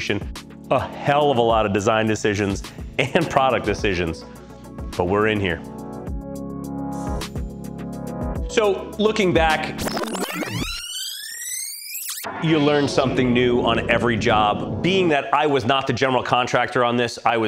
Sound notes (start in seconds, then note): 6.2 bright music; 9.8 film rewinding